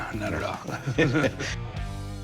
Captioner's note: both laugh